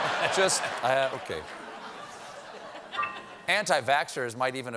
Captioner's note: laughter